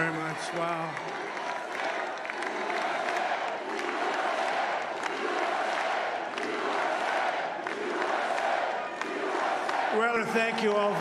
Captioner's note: applause